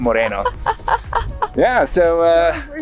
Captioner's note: laughing